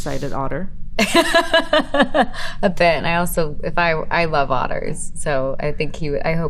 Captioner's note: laughing